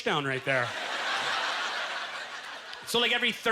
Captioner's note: audience laughter